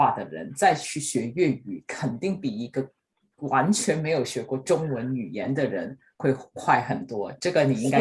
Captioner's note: in Cantonese